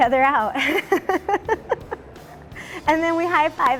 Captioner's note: laughing